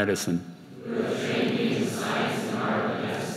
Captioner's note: crowd